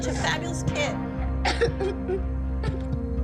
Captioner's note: sobbing